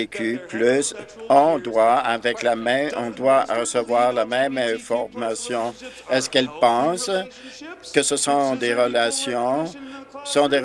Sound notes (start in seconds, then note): none